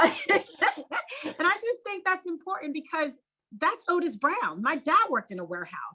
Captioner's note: laugh